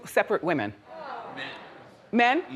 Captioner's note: audience groans